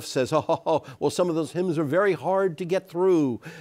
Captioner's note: imitating the sheriff